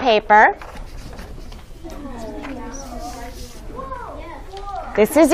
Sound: student Whispering

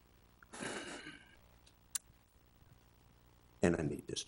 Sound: sighs

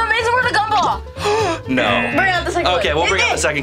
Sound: gasps; buzzer buzzes

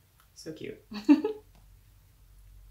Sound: laugh

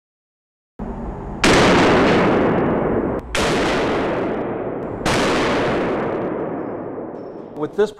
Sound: sound of gun firing

